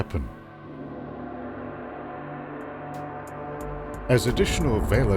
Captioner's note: gong bangs